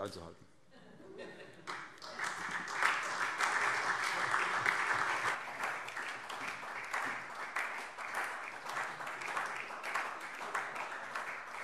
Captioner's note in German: Lang anhaltender Beifall SPD